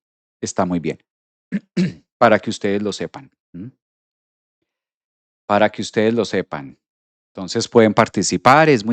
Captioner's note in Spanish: carraspeo